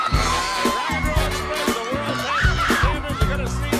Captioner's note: crowd cheering